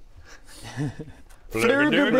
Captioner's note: chuckles